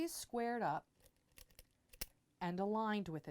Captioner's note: pin Sounds